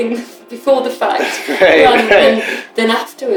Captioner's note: laughter